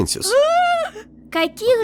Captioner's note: sounds of excitement